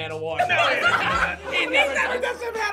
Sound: group laughs

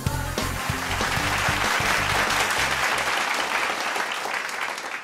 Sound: applause

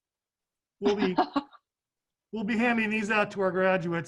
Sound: laughing

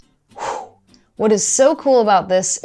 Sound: exasperated sigh

